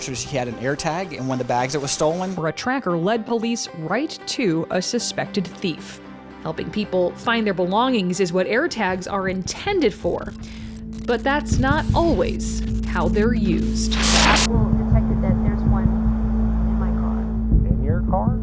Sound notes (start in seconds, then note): 11.0 static crackles; 14.3 static hisses